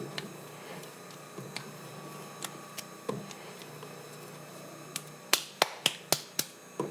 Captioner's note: clay slapping